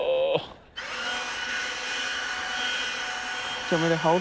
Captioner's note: leaf blower whirrs